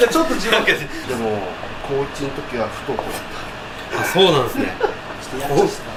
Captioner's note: laughs